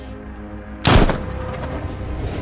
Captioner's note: gunshot